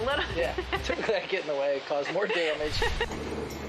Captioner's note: laughs